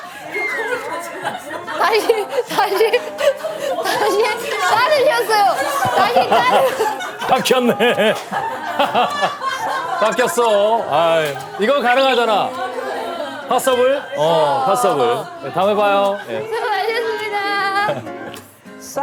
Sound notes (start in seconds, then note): 10.0 hahaha